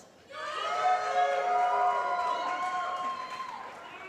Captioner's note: applause